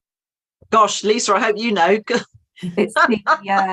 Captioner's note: laughs